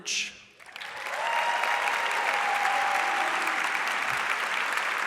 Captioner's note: audience applauds